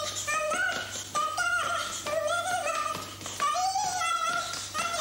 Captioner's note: humming